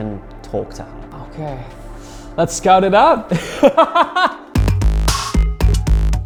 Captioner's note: laughs